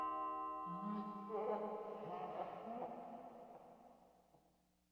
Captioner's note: Fredbear Laughing